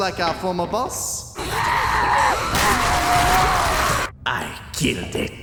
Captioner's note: muffled screaming